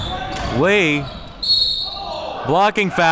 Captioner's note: whistle blowing